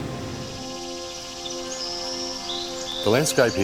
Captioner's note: relaxed violin music; birds chirping